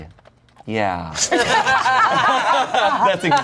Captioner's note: everyone laughs